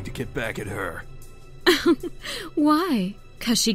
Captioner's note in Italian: risatina antipatica